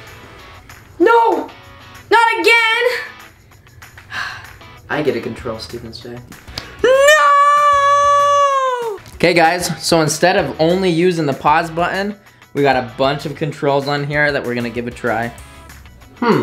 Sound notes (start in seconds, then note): 4.0 sighs